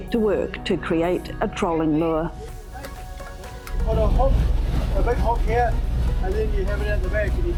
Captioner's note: hammering